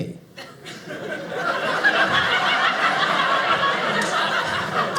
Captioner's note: audience laughing